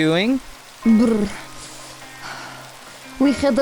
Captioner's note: huffing